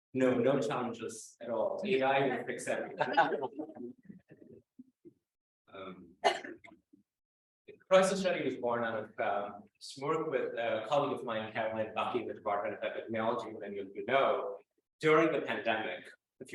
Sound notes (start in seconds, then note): 2.8 laughter